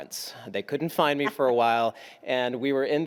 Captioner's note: laughs